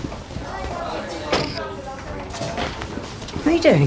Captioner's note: people chattering